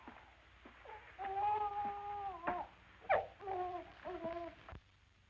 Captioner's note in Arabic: بكاء الطفل